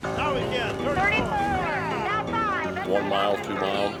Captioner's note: theme music; scattered yelling